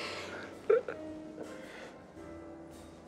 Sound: chuckling

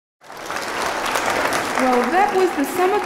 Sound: applause

